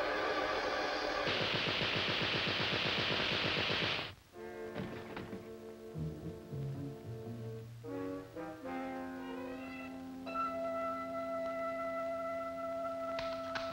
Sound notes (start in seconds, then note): 1.1 machine gun firing; 4.6 tense music playing